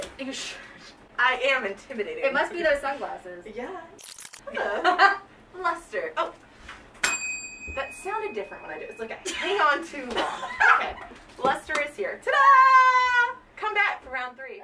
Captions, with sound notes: It must be those sunglasses. - Yeah! Hello! (laughter) Luster. Oh! (bell rings) That sounded different when I did it. It's like I hang on too long. (laughter) Okay, Luster is here, ta-da! Come back for Round 3.